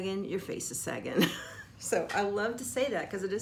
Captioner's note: laughing